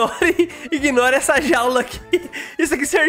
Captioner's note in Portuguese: risos